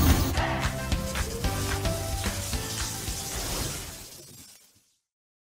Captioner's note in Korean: 전기 스파크